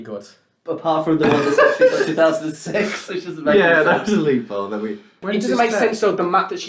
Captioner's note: laughs